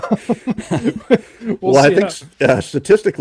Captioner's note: laughing